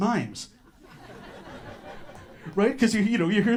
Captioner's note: audience laughter